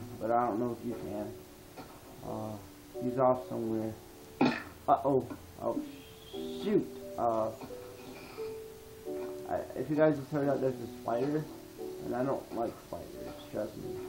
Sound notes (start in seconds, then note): 5.7 spider hiss